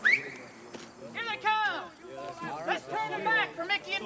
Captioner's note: whistles